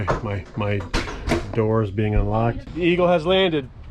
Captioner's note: door unlocks